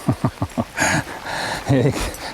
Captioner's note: laughter